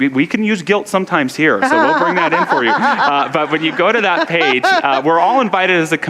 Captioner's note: audience laughter